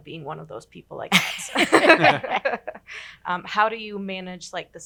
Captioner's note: all laughing